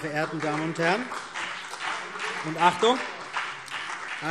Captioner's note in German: Beifall BÜNDNIS 90/DIE GRÜNEN und vereinzelt CDU